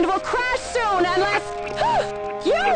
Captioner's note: gasps